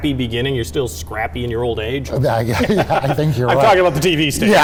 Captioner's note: laughs